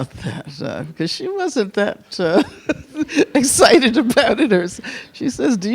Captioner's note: chuckles